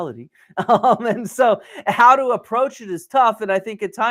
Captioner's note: laughs